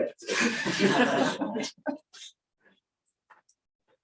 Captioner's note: laughter